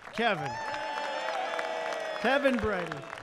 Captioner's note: applause